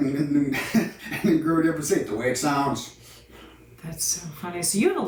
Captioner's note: laughs